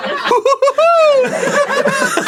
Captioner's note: arin laughing like the pillsbury dough boy